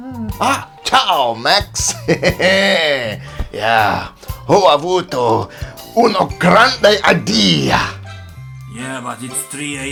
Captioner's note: in BAD Italian